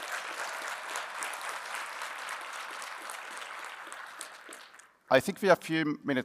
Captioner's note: applause